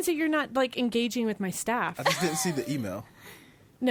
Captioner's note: laughs